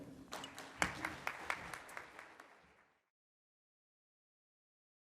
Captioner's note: audience applauding